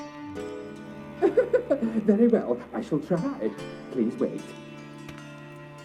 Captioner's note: laugh